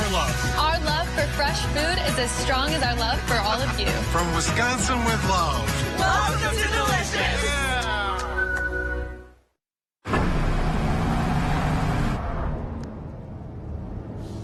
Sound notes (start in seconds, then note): 10.1 engine accelerates